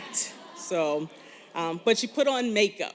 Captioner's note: laughter